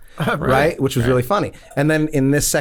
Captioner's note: chuckles